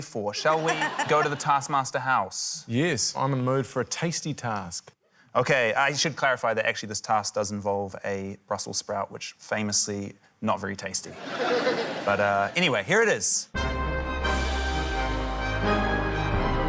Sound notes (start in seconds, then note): 11.1 laughter; 13.6 dramatic music